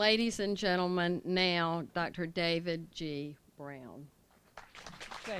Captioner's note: applause